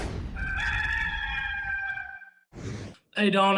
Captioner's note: rooster crows